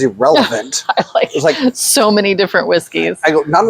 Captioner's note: laughs